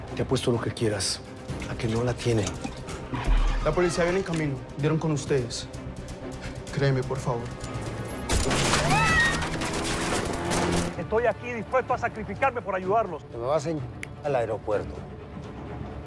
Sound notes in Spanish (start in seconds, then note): 8.3 Disparos; 8.7 Gritos